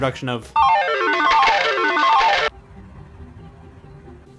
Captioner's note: casino noise